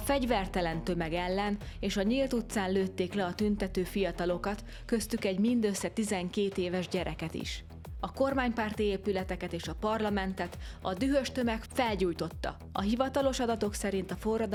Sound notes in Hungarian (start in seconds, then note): none